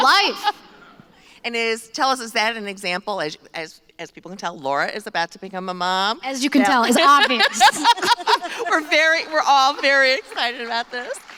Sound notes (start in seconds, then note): 6.8 laughter